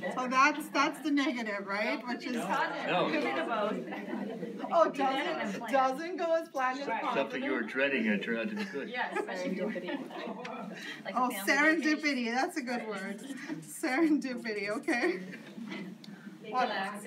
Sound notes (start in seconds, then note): 1.9 audience talking; 11.8 audience murmuring